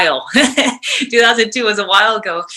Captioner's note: chuckles